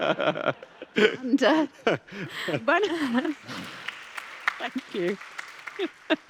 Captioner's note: applause